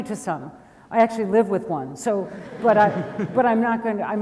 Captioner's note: audience laughs